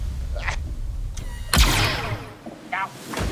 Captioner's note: gunshot